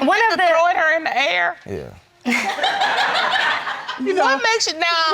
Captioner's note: audience laughing